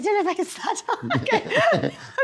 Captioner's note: laughs